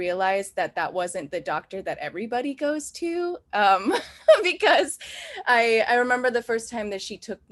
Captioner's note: laughs